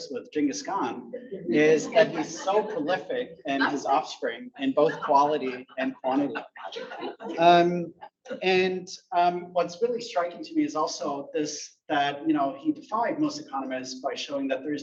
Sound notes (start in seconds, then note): 7.2 audience laughs